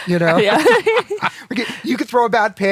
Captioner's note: laughter